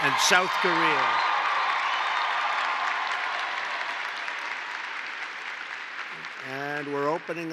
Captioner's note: applause